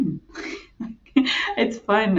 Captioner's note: chuckling